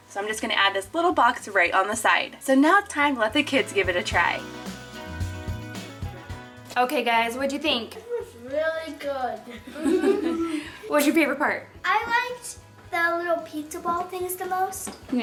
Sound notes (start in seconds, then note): 5.0 lively music; 9.5 all chuckle